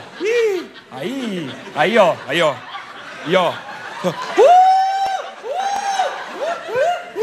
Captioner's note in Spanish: grita